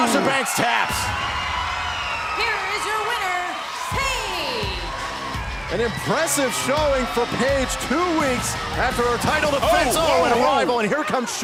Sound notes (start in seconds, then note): 2.1 cheers and applause